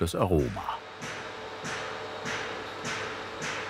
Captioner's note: whirring, hammering in the background